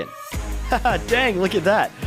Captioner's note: laugh